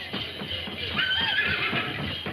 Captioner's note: horse whinnying